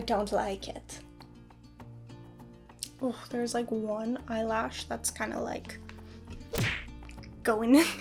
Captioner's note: punch noise